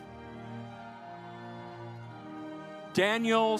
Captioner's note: audience applauds